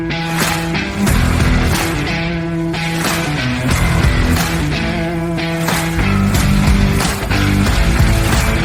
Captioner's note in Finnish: Aplodeja